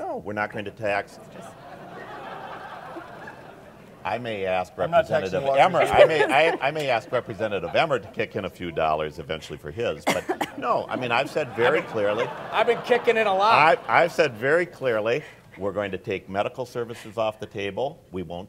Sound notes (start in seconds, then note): 4.6 audience laughs; 10.6 audience laughs